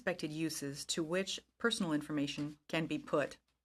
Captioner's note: speaking in french